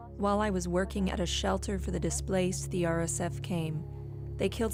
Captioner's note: speaking alternate language